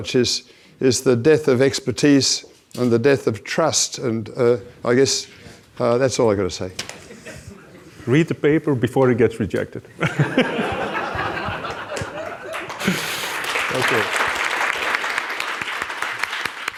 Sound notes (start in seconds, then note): 10.1 audience laughs and applauds